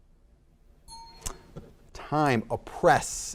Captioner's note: bell dings